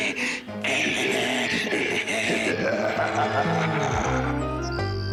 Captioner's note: both laugh wickedly